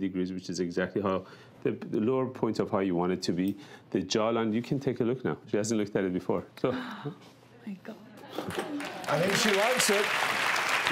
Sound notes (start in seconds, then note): 6.7 gasps quietly; 8.5 audience applauds